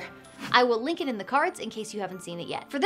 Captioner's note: air whooshing